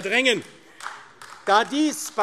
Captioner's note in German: Beifall AfD